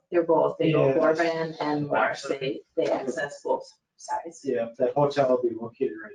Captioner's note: speaking faintly